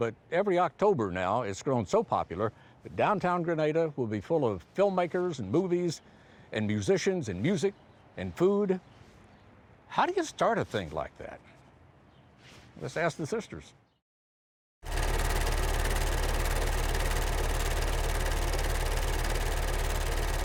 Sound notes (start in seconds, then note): 14.9 film reel shuttering